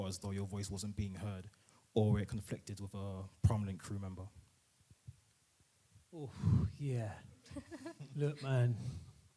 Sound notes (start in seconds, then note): 7.5 laughing